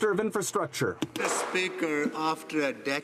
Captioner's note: some Applause